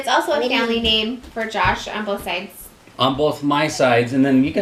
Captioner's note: none